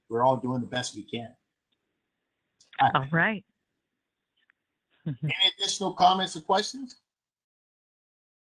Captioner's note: laughter